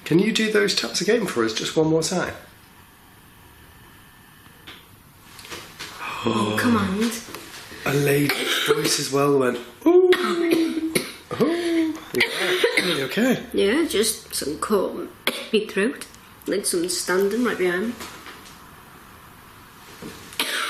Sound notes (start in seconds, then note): 5.0 faint tapping; 12.1 coughs